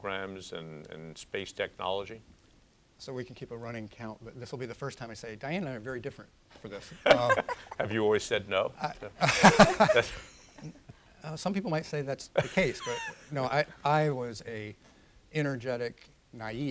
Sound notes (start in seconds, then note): 6.9 laughter; 12.4 laughs